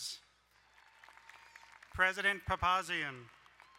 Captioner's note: crowd cheering and applauding